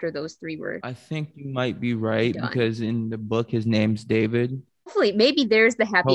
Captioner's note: snickers